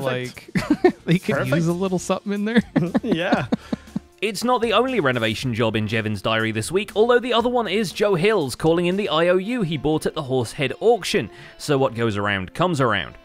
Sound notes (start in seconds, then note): 2.5 chuckles